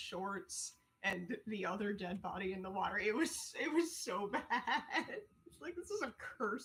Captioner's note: laughing